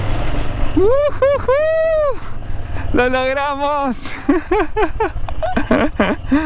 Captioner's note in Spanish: risas